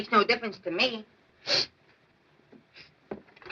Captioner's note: sniffs